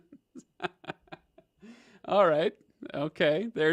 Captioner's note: laughs